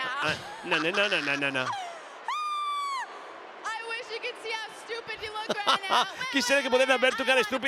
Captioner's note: laugh